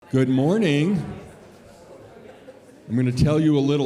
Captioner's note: audience chattering